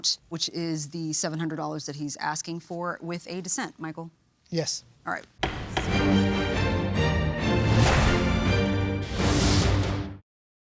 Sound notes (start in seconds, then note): 5.4 gavel bangs; 5.4 powerful music